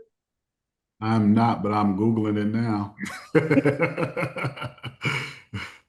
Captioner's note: laughs